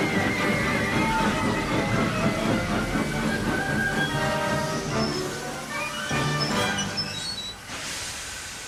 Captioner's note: JAMES' brakes slowly stop squealing